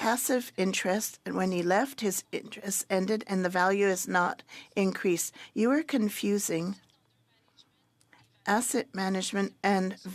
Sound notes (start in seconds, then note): 1.2 speaking French